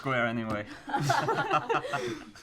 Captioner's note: laughs